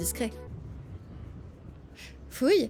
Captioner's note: wind noise